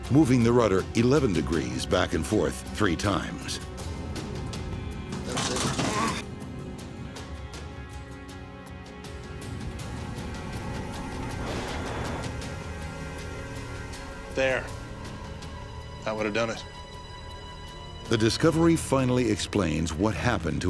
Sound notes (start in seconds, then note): 7.3 tense music; 11.0 metal bangs; 12.4 tense music